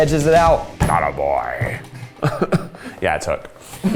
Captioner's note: laughs